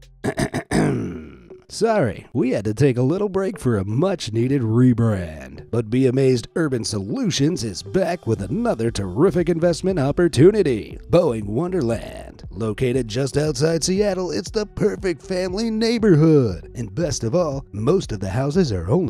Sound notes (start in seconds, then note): 0.2 clears throat; 1.6 upbeat real-estate agent voice